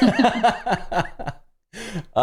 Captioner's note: laughter